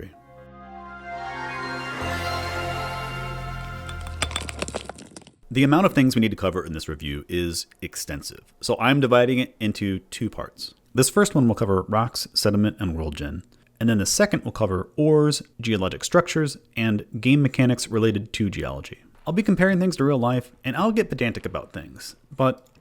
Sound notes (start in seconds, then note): 0.0 intro Music; 3.7 rocks Crumbling